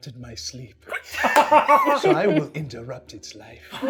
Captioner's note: laughing